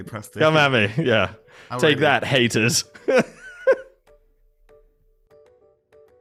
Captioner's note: laughs; playful music